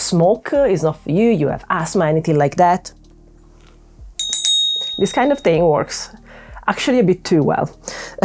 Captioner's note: rings bell